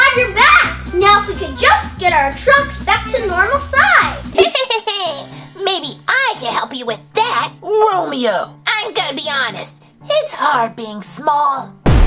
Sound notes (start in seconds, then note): 4.4 Romeo laughs